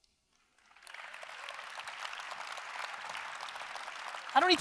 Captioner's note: audience applause